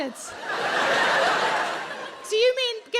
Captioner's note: audience laughs